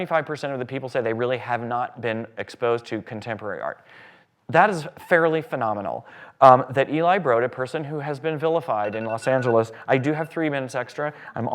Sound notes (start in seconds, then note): 8.8 alarm goes off